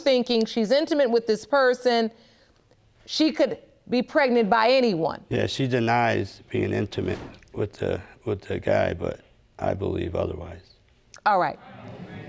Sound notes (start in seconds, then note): none